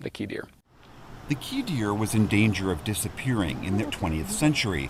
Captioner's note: voice-over